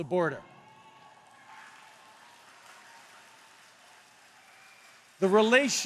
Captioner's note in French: Applaudissements